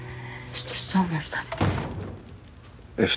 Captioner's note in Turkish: duygusal müzik biter; kapı kapanır